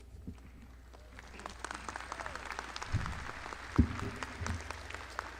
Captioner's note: audience clapping